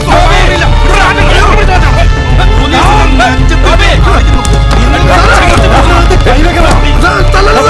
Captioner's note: indistinct chatters